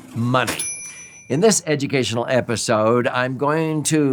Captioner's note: bell chimes